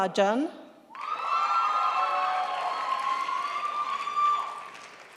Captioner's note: audience applauding